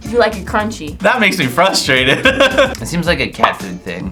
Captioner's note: laughs